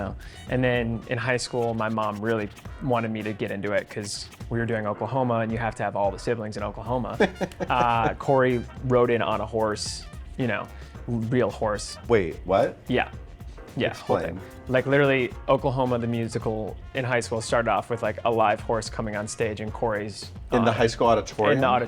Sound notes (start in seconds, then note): 7.1 laughs